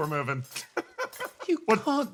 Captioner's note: laugh